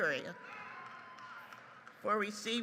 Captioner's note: audience applauds